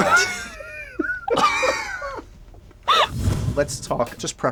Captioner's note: laughter